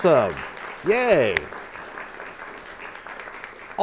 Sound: applause

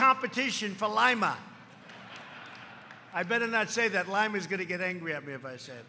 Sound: laughter

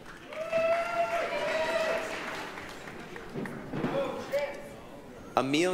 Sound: applause, cheering

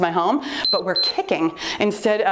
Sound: timer beeps

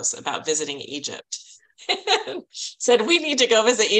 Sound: laughing

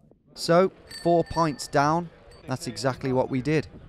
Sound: bell dinging

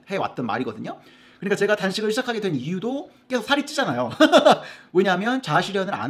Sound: laugh

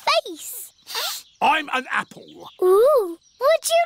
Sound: sniffs

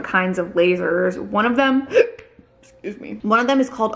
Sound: hiccups

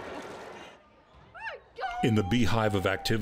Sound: cheering

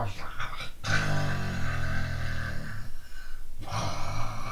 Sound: snores; continually inhales

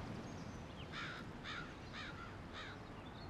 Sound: crow cawing

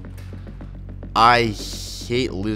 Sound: none

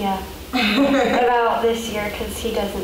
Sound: woman laughs

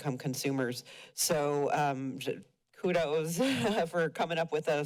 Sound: chuckles

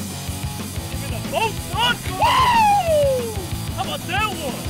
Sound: rock music; cheering

